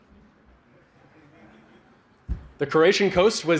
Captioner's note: laughter